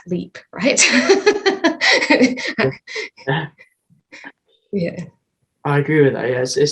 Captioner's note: laughter